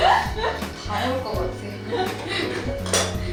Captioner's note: haha